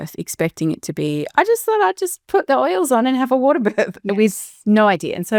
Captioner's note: chuckles